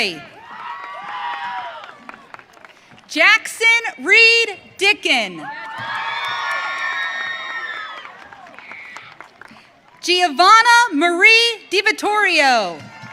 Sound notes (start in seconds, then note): 0.3 audience cheering; 5.4 audience cheering